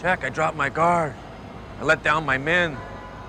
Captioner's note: none